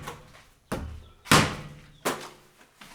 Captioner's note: ball bouncing